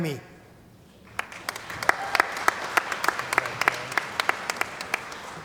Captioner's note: cheering & Applause